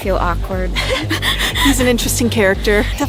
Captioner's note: both chuckle